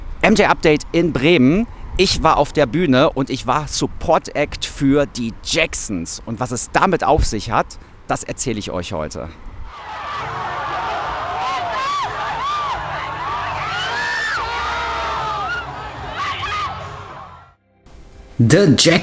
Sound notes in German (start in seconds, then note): 14.3 jubel; 18.6 schreien